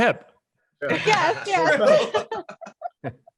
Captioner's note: laughs